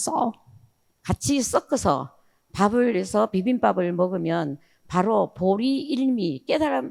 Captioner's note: speaking in foreign language